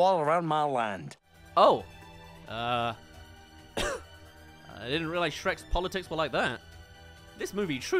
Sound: cough

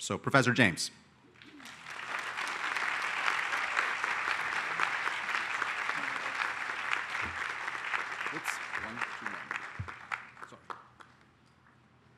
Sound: applause

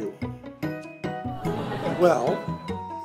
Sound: audience swoons

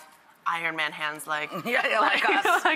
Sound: laughing

